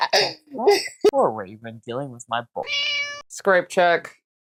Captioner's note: meow